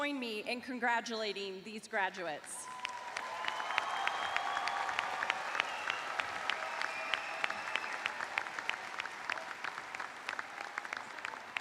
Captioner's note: cheers and applause